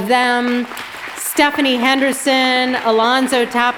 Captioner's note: audience applauds